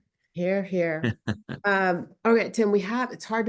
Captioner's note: laughs